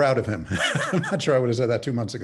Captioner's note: laughs